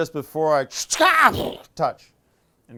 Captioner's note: scream